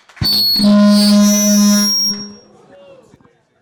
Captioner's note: mic screeching